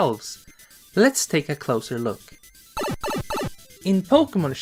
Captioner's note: warp pipe sound